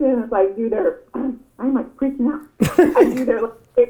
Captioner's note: Gary laughs